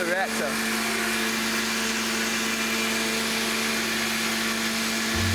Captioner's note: machine running